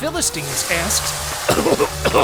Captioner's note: coff coff